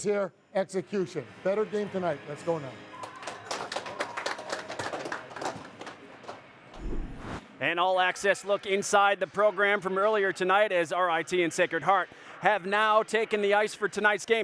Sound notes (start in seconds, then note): 2.9 clapping